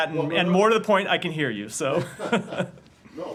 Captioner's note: laughter